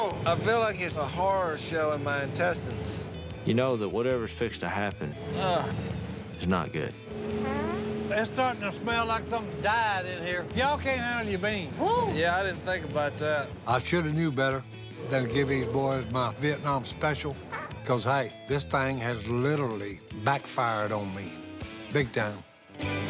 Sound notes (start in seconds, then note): 6.9 fart; 14.9 burp